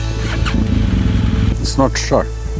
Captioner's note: motorbike roaring